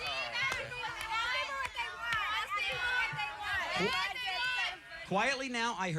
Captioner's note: yelling